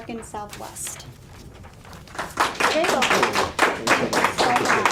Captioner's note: applause